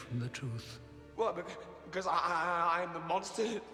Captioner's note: stuttering